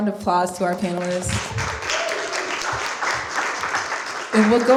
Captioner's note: applause